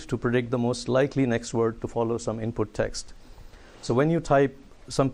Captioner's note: none